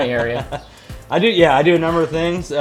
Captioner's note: laughs